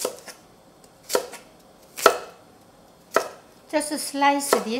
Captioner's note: knife tapping